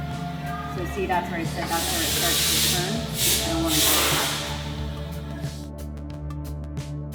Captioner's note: welding